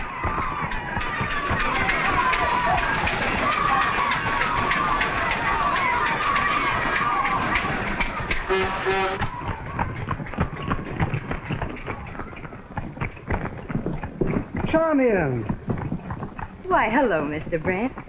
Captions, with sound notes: [ KIDS NOISE - CAR CHUGGING ] [ CAR HORNS - HORSE HOOVES ] - Charmian! - Hello, Mr. Brett.